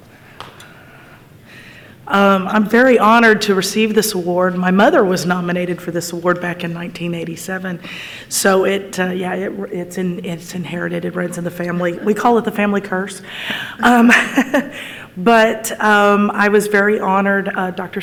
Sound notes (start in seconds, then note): 13.4 laughs